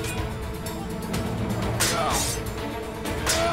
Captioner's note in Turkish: Kılıç sesleri